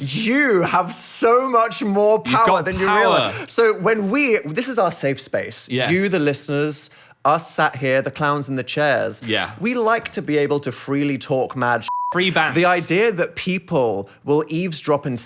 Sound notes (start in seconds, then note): 11.9 beeping